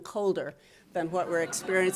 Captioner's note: audience laughing